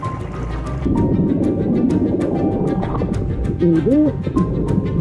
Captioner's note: water bubbling